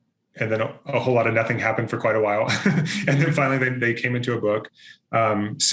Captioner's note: chuckles